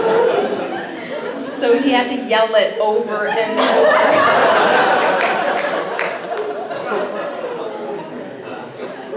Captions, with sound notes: So he had to yell it over and over. (laughter)